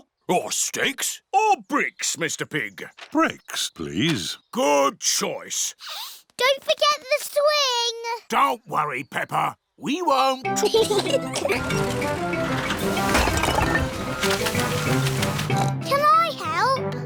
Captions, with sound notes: -Or sticks -Or bricks, Mr. Pig? Bricks, please. Good choice. Don't forget the swing. Don't worry, Peppa. We won't. (BOTH GIGGLING) (OINKS) Can I help?